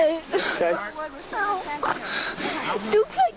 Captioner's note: sniffling